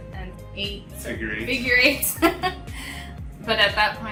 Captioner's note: laughs